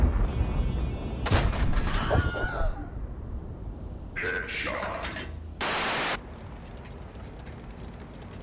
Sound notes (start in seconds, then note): 1.9 Wilhelm scream